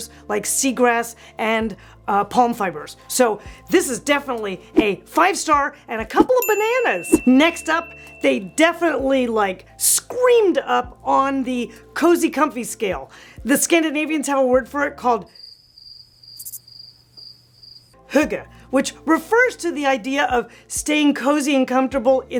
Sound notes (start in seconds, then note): 15.3 crickets chirping